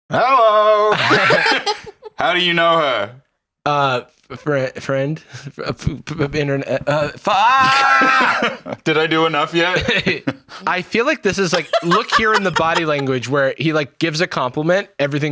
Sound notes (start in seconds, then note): 0.8 laugh; 5.3 stammering